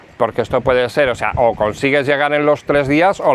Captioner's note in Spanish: none